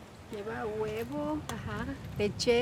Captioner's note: speaking Spanish